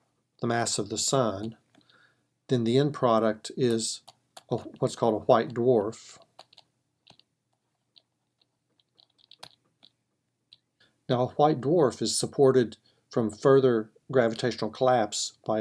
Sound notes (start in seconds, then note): 6.5 typing